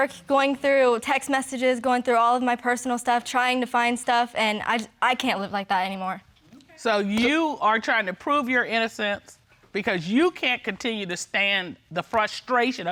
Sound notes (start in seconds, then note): 4.7 stammering